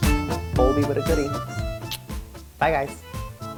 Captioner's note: kiss